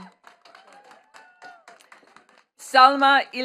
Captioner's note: attendees clapping